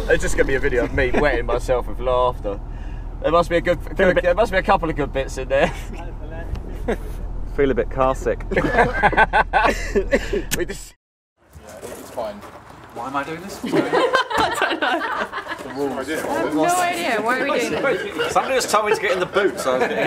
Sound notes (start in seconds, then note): 8.4 laughing